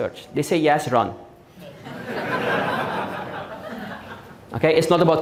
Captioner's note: audience Laughing